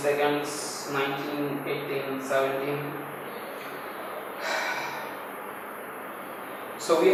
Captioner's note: sigh